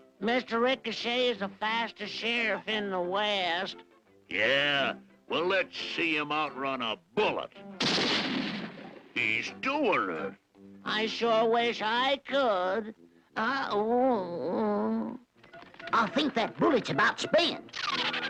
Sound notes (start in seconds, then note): 14.1 groans